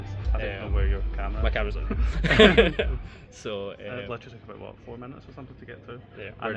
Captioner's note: laughs